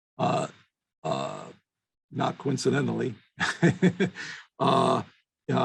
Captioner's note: chuckles